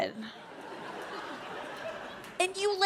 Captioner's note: audience laughs